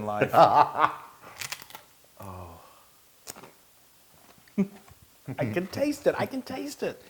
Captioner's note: laugh